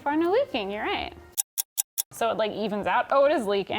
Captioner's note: clock ticking